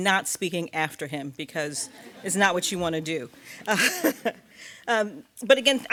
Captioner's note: laughs